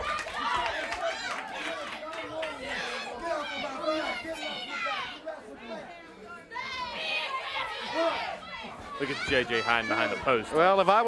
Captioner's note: crowd chatter